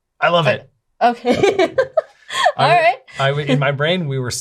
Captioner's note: laughs